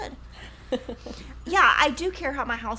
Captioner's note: chuckles